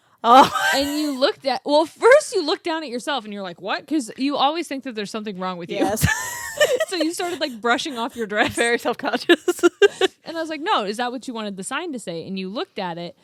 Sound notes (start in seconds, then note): 0.4 laughs; 5.9 both laughing